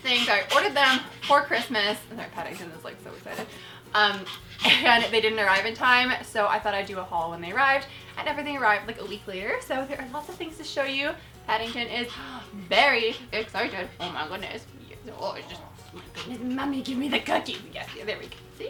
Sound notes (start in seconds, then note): 15.2 cooing